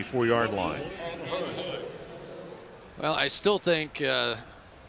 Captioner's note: pa announcement